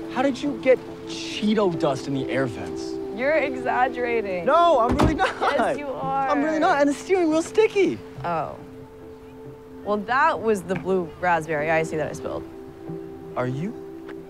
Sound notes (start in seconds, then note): 4.8 doors closing